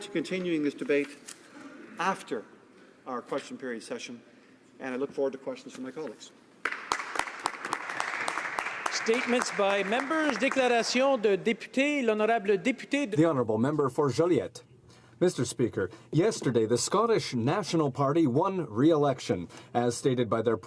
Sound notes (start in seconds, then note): 12.2 applause; 16.0 speaking French